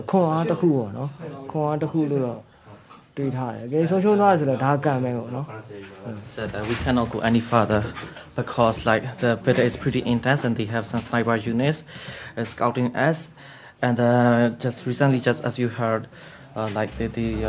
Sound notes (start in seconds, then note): none